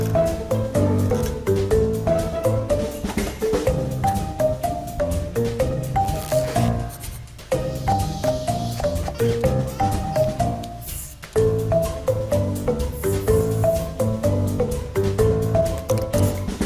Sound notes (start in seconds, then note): 0.3 playful music continues; 8.7 baby vocalizing; 8.9 child imitates water flowing